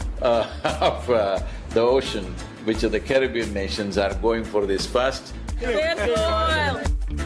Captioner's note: laughter/Applause